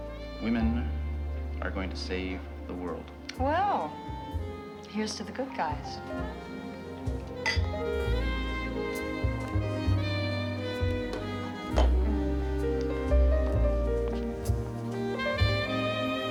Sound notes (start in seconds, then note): 7.4 glasses clink